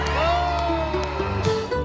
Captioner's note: crowd cheers